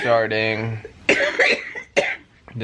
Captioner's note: coughing